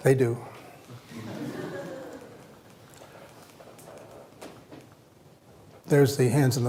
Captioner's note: laughter